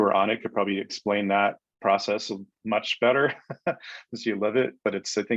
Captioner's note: chuckles